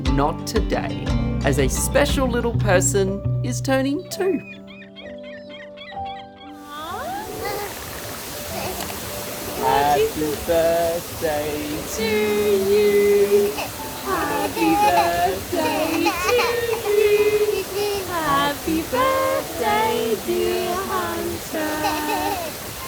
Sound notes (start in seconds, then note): 4.1 bird squawking; 6.8 water running